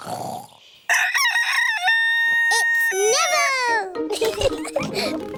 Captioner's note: neville crows; both giggling